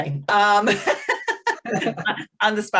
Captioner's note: laughs; all laughing